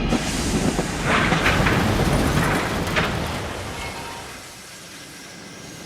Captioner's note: louder crash